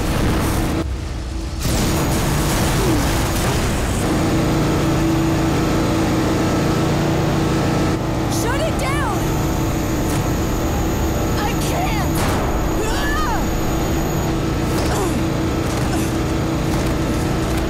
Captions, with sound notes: Shut it down! I can't! Argh! [grunting]